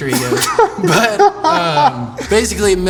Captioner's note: laughing